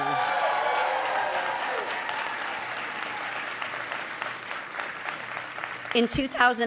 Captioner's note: applause